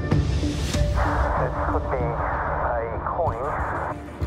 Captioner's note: speaking over radio